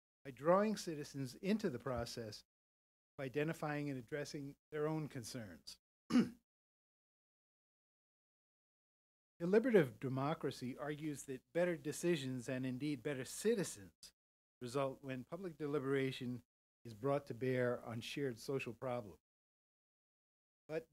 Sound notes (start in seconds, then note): 6.1 cough